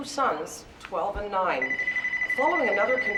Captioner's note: telephone rings